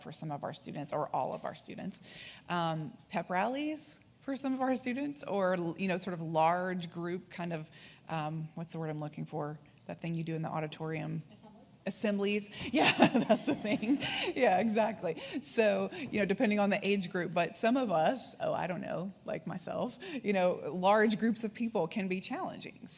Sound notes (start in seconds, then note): 13.0 laughs